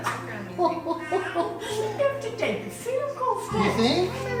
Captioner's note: laughs